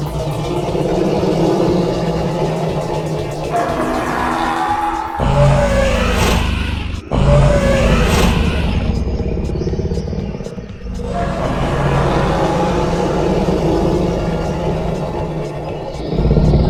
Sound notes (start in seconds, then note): 5.2 dinosaur growling; 6.4 footsteps stomping; 11.7 dinosaurs growling